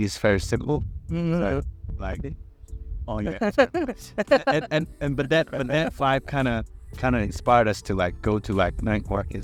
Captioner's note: haha